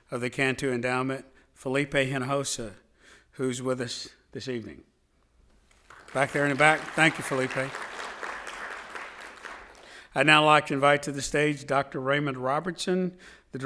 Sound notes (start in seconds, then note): 5.7 audience applauding